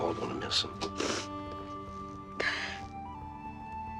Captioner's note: Edith sniffling